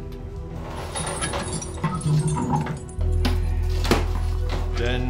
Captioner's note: chains clattering